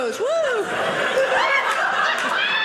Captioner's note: audience laughing